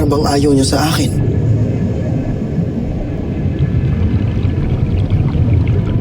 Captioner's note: water gurgling